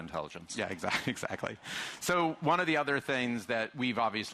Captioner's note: chuckling